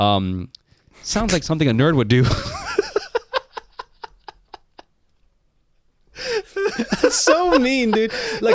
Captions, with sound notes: sounds like something a nerd would do. (laughing) - So mean, dude.